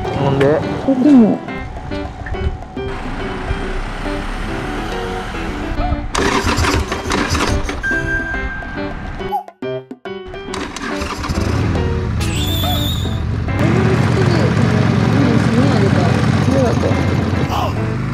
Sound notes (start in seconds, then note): 6.1 engine noise... stopping; 10.5 engine sound